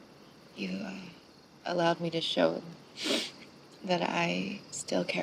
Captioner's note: sniffs